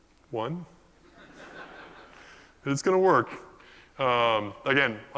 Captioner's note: laugh